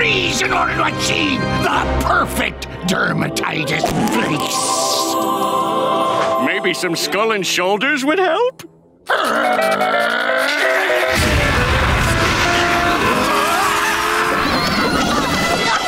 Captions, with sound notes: in order to achieve the perfect dermatitis. Maybe some skull and shoulders would help? [growling] [screaming]